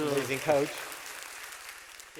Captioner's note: cheering, clapping